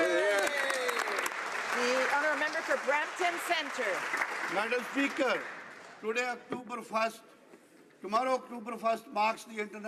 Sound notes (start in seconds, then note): 3.9 some Applause